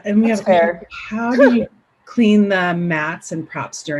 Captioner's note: laughing